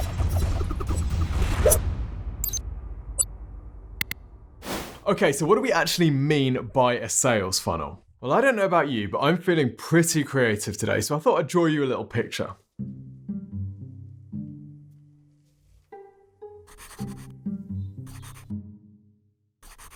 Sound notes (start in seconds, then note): 0.2 upbeat music; 1.8 knife scraping; 2.6 video beeps; 4.0 mouse clicks; 12.8 suspenseful music; 16.9 pencil scraping